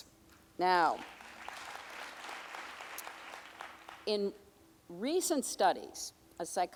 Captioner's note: audience applauding